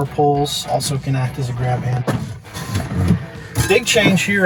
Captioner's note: door closes